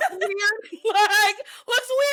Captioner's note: laughing